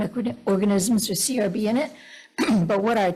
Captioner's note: clears throat